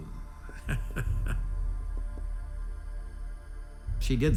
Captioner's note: chuckles